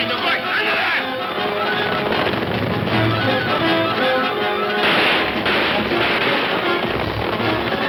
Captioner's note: suspenseful orchestral music; guns firing